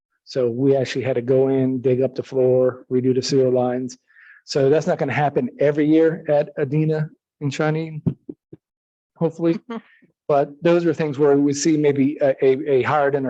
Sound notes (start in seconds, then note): 9.3 member laughs